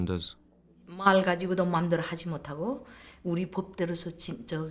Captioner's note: speaking korean